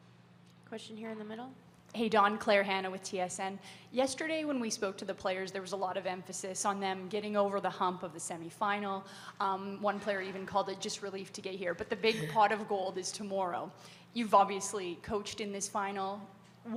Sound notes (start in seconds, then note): 12.0 Dawn chuckles